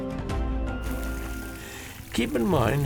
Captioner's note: babbling brook